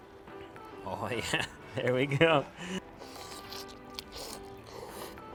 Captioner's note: laughing